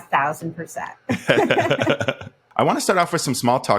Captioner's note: laughs